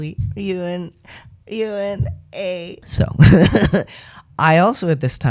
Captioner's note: laugh